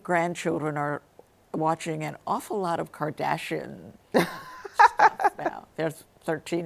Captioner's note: laughing